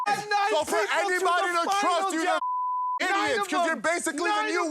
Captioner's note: beep; beep